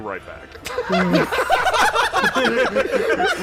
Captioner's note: laughter